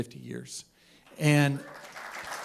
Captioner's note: applause